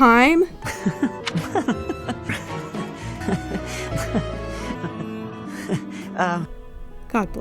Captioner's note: series of chuckles from the boy